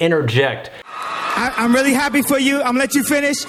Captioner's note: audience applauding